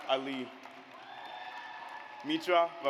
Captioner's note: audience applauds